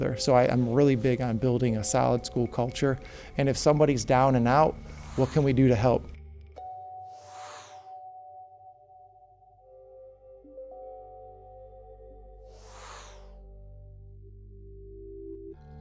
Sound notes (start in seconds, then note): 7.1 graphic whooshing; 8.6 calming music; 12.5 graphic whooshing